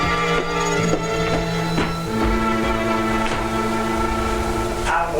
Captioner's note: footsteps thudding